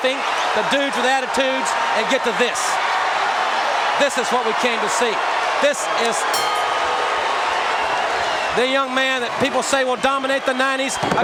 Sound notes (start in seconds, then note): 6.3 bell ringing